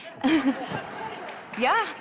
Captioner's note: laughter